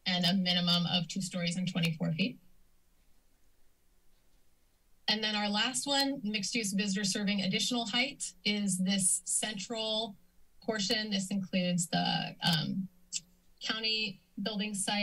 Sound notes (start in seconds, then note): 2.4 silence